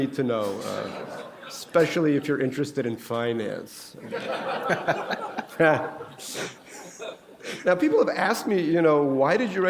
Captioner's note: laughter